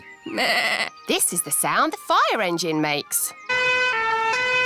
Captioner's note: bleats; siren blaring